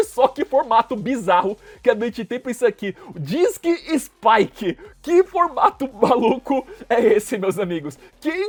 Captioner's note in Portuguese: risadas